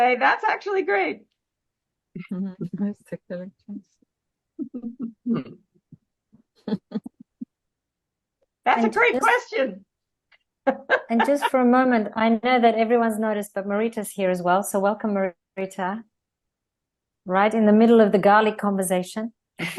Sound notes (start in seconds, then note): 3.8 Rires; 19.6 Rires